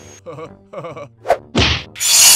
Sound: whoosh-thwack!

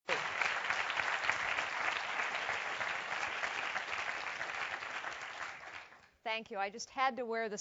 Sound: applause

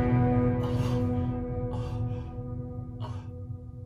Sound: heavy sighs

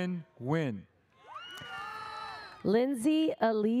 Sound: audience cheers

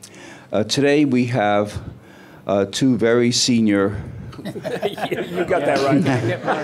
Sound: laughter

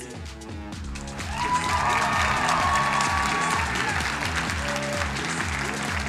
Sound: crowd cheering and applauding

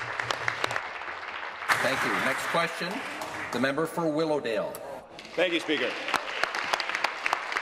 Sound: applause

